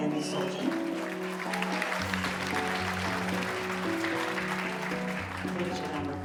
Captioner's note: audience applauding; gentle music